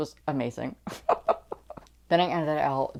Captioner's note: laughing